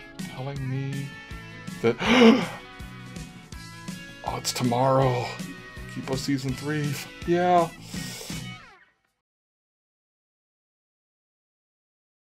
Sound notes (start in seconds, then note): 1.9 fangirl gasping